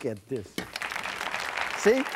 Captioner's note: applause